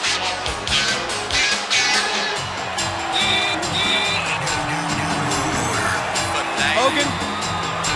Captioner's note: crowd cheering